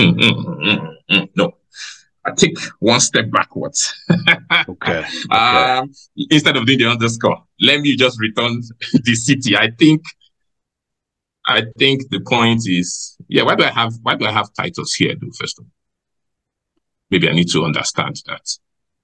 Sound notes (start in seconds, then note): 3.7 laughs